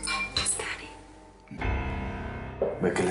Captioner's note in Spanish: Susurra